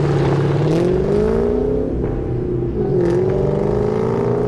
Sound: engine revving

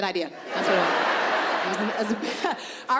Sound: audience laughing

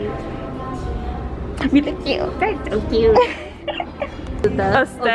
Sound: squeky voice

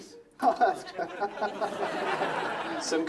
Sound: laughing; laughs

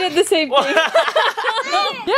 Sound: laughing

